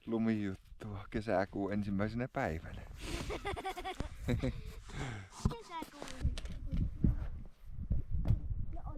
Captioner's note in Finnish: naurua